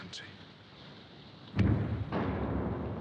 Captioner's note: rumbling